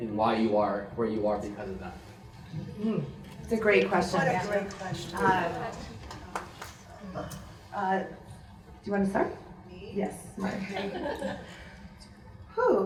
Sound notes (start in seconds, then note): 5.5 murmurs